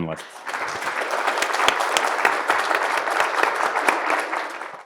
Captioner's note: attendees applauding